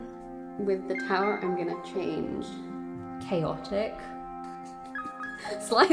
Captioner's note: laughs